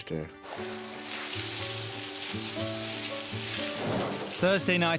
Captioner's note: water rustling